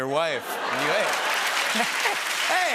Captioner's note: cheering and applause